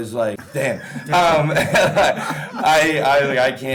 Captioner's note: all laughing